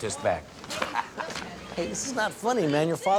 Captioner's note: chuckling